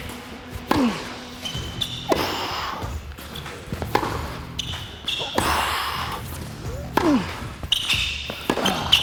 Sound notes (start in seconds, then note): 0.7 grunting; 3.4 ball thumping; 6.7 grunts